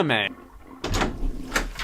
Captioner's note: flush